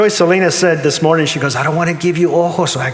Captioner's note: in Spanish